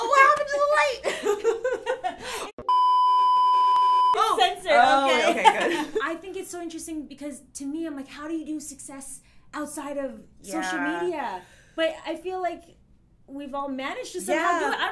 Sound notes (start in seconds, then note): 2.2 laughs; 2.6 beep; 5.1 laughs